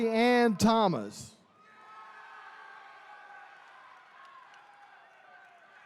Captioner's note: attendees cheering